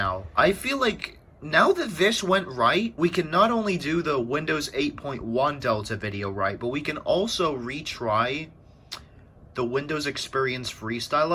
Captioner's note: tch